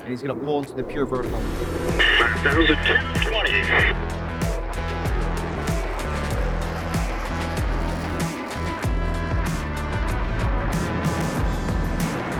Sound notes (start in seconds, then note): 4.1 aircraft humming; 4.1 robust music